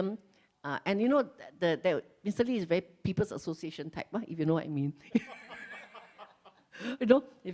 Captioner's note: laughs